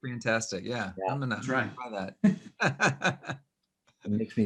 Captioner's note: laughs